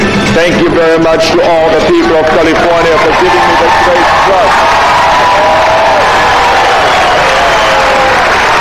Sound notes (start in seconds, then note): 4.7 cheering